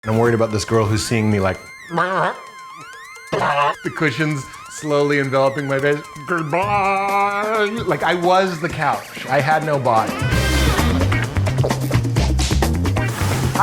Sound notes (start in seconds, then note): 1.9 gagging; 10.4 upbeat music